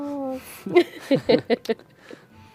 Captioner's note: laughter